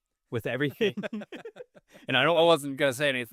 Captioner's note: both laughing